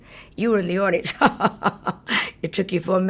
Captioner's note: laughs